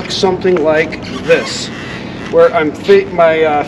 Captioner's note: board creaking